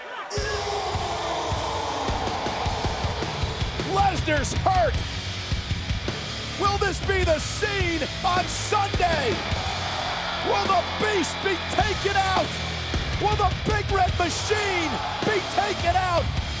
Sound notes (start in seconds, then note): 0.2 dramatic music; 9.1 crowd cheering